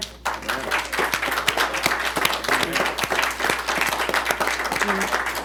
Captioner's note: applause